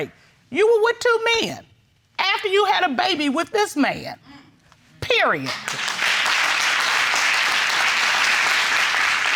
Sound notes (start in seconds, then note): 5.5 audience applauding